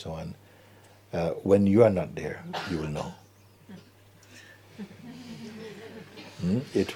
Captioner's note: laughter